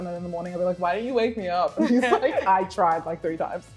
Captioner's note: laughs